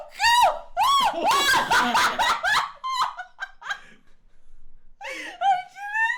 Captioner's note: panicked Screams; excited Screams